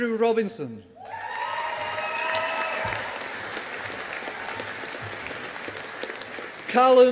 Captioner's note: audience applauding